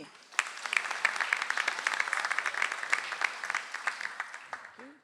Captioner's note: audience applauds